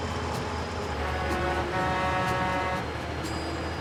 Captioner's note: truck honking